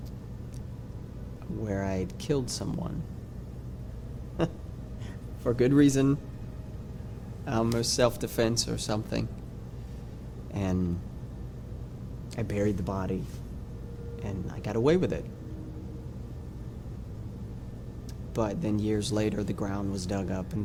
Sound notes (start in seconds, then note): 4.3 chuckles